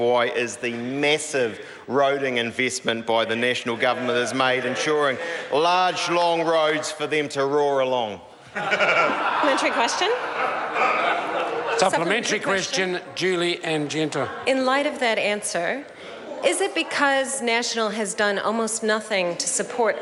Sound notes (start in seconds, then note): 8.4 members laugh